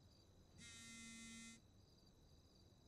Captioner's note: Phone vibrating